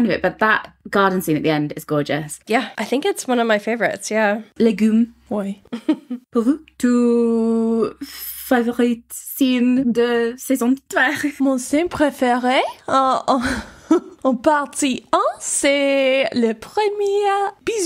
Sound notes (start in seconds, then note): 5.7 laughs; 6.3 speaking in foreign language